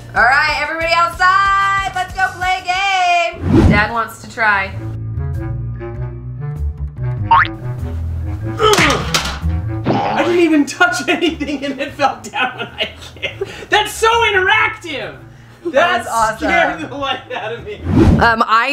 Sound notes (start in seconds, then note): 4.9 ponderous music; 8.8 clattering; 9.9 grunts; 12.4 laughter